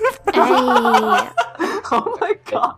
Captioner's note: laughing